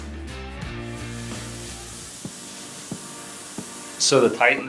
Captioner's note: compressor air hissing